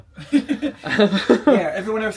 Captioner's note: laughing